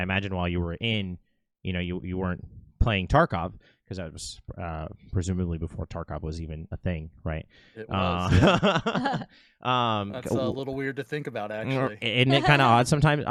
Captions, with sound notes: I imagine while you were in, you know, you weren't playing Tarkov, because that was presumably before Tarkov was even a thing, right? - It was. (laughs) That's a little weird to think about actually. - And it kind of odd sometimes.